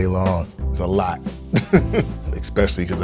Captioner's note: laughs